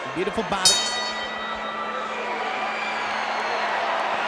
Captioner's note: bell dings; crowd cheers